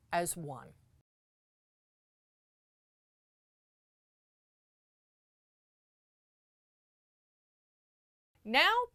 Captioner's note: no Sound Present